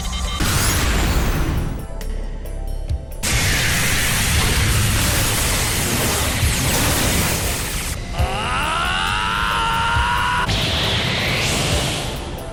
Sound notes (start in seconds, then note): 9.4 powering up